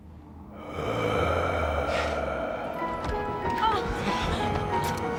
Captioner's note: eerie groaning